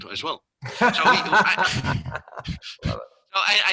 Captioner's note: laughs